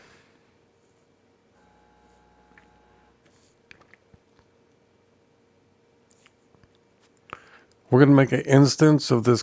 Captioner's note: silence